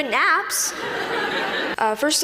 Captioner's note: laughing